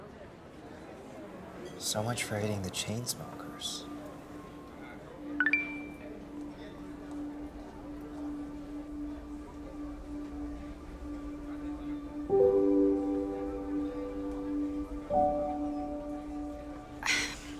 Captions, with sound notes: So much for hating the Chainsmokers. [cellphone rings] [sad piano music]